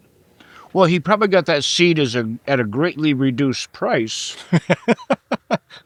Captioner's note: laughing